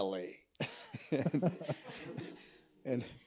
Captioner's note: all laughing